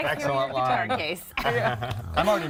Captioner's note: laughter